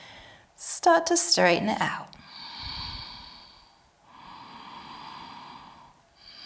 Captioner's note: exhaling and inhaling